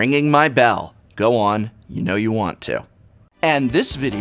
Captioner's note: in a tone unbecoming of a professor